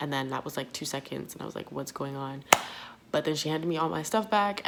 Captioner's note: clap